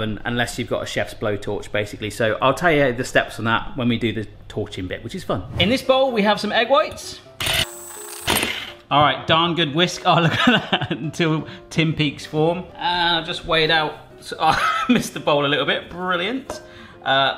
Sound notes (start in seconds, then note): 8.0 mixer whirs; 14.4 laughs